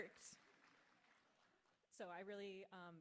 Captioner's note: audience clapping